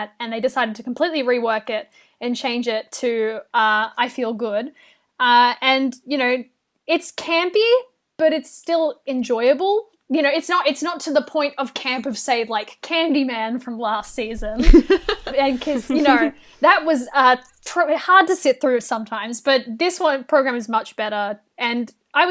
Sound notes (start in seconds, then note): 14.4 hosts laugh